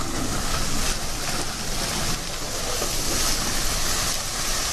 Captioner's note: pours liquid